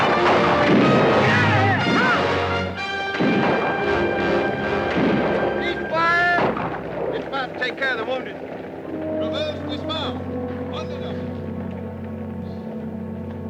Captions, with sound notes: - Get out of here, come on! (guns fire) - Cease fire! - Dismount and take care of the wounded. (somber orchestral music)